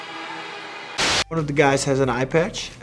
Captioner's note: static crackles